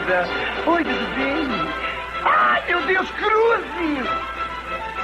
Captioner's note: gasps